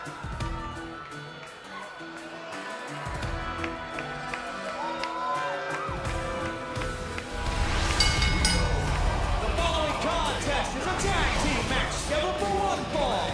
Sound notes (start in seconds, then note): 9.2 bell